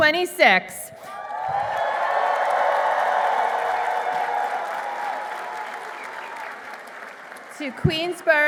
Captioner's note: applause